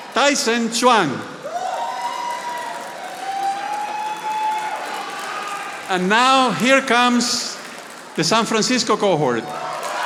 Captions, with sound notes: Tyson Zuang. (audience applauding) And now here comes the San Francisco cohort.